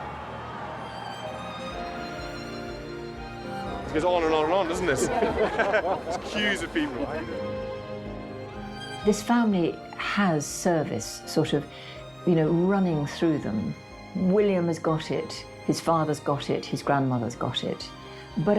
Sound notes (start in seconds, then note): 4.1 laughs